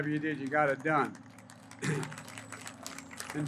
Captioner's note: applause